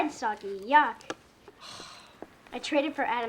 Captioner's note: sighs